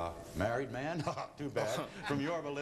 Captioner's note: chuckles